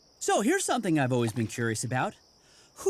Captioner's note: none